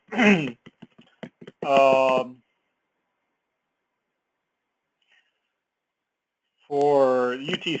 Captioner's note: cough